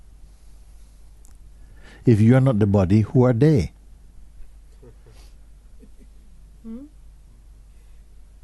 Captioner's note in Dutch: gelach